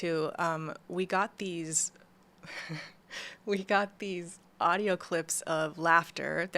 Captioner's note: laughs